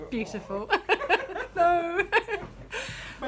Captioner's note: laughter